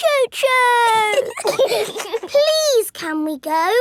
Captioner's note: giggling